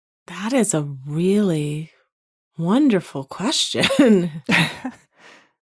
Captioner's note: chuckles